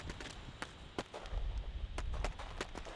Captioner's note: gunfire